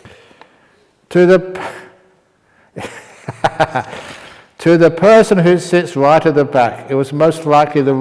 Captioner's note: laughter